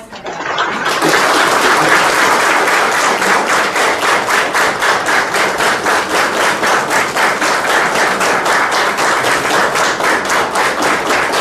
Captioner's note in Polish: oklaski